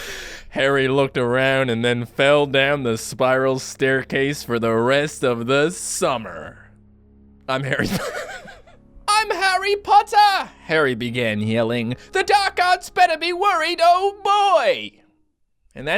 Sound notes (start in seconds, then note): 7.7 laughts; 8.5 funny voice